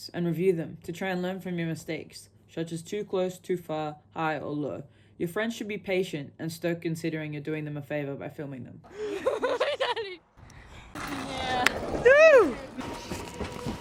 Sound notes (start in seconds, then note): 8.9 laughing